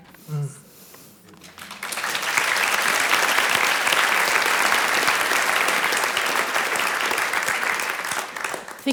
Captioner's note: applause